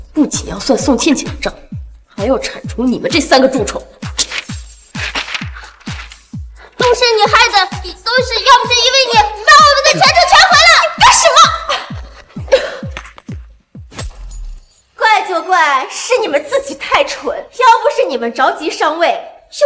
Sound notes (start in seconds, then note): 11.3 cough